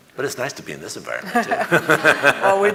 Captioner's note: audience laughing